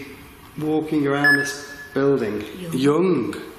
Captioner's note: beeping